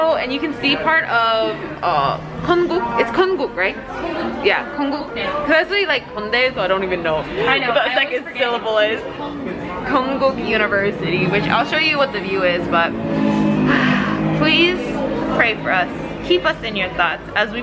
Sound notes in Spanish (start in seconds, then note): 1.7 habla extranjera